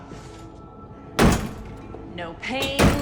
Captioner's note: door lock clanging